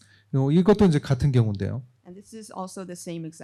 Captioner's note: speaking korean